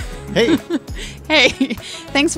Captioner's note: laughs